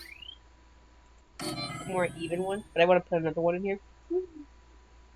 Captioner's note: humming